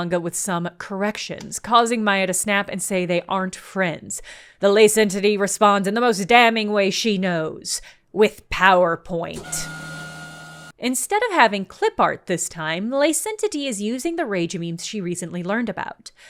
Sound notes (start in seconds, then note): 9.4 the screen-descending sound again